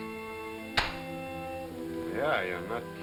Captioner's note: gun pops